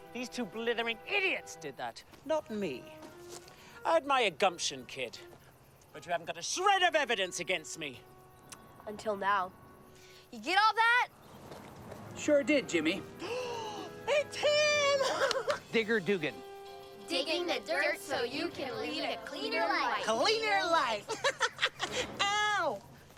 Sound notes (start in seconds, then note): 13.2 gasping; 21.0 laughing